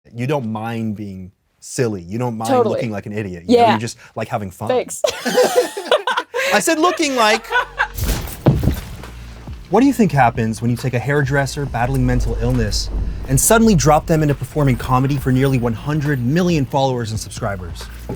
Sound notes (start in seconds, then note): 5.0 both laugh; 7.4 Kris laughs; 7.7 crashing